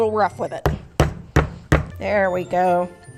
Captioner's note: banging